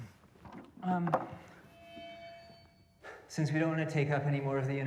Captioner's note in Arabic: صرير الميكروفون